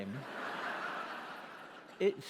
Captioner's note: laughter